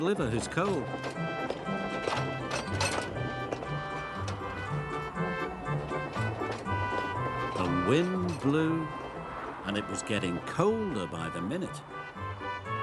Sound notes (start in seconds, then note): 0.2 train clanking; 1.7 train chugging; 3.9 wind rustling